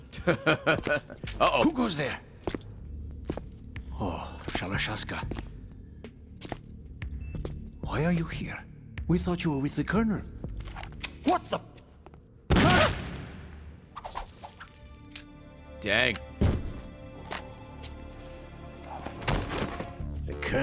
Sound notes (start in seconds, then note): 0.1 laughs; 16.6 gunshot